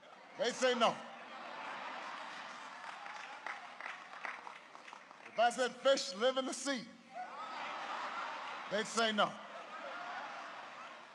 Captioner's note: laughter and applause; laughter